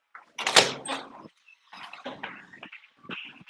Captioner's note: door clanks